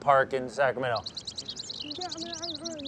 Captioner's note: birds chirping